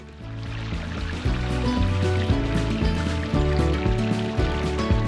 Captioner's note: running water